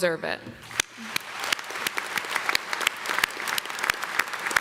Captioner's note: audience clapping